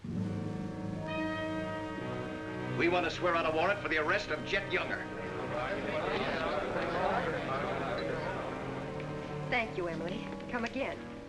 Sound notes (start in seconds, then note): 0.1 ominous music; 5.6 crowd murmuring in agreement